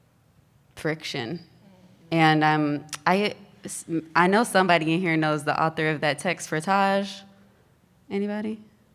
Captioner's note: none